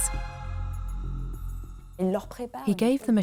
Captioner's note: non-english speech